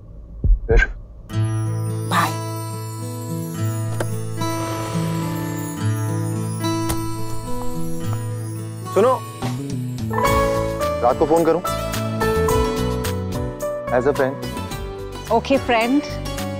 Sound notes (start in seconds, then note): 3.7 bike passes; 3.8 car door opens; 6.8 car door closes